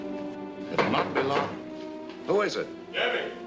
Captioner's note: knock on door